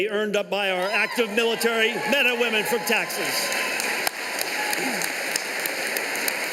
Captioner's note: applause